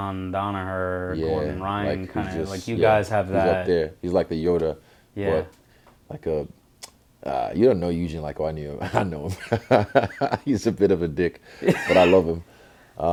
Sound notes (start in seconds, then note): 8.8 laugh; 11.6 laughs